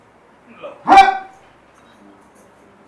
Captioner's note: shouts